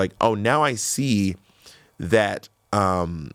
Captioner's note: none